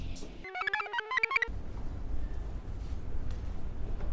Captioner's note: computer chirps